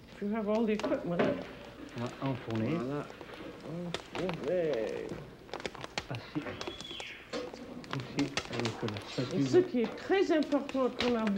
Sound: speaking french

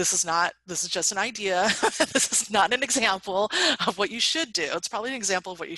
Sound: laughs

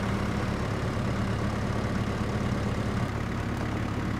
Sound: engine runs

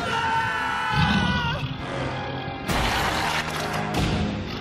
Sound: screaming

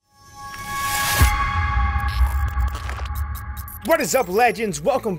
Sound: air whooshing

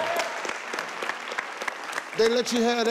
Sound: people applauding

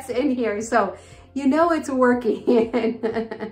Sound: laughs

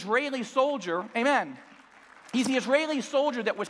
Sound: clapping

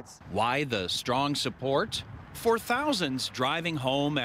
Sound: vehicles drive

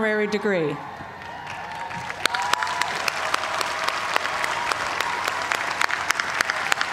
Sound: cheers and applause

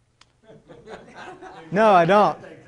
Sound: laughter

